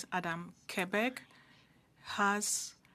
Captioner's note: speaking French